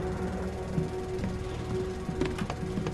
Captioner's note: sound of footsteps